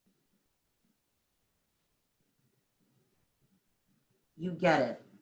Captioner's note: silence